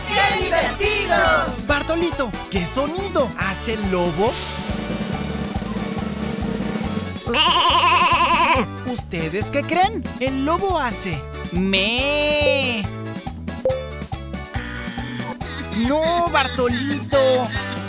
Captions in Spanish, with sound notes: ¡Qué divertido! ¿Bartolito, qué sonido hace el lobo? (Sonido de redoblante) Mee mee (Sonido de oveja) ¿Ustedes qué creen, el lobo hace meee? No Bartolito (Llanto)